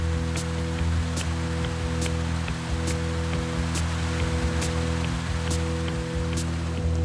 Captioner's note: machines humming; dramatic music